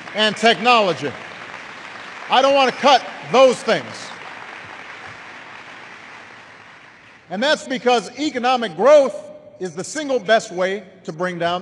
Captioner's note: applause